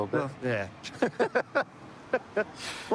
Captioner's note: laughter